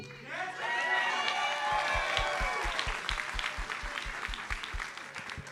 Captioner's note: audience cheers and applauds